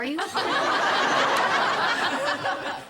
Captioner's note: audience laughter